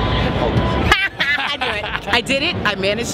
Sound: laughs

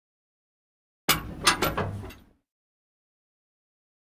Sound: sound of door

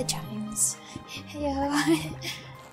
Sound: giggling

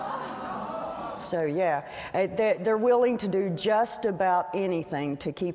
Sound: laughter

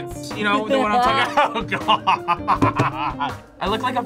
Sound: laughs

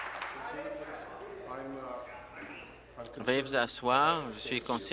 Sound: applause

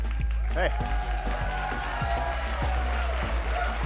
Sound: applause

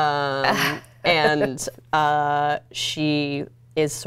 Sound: laughs

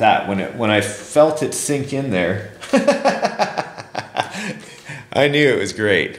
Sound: laughs

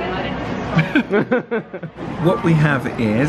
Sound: pair laughs

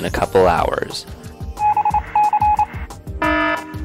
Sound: morse code; alarm

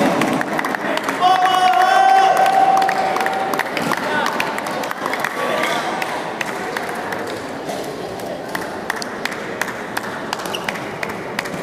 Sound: applause

